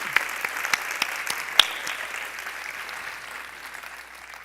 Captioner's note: applause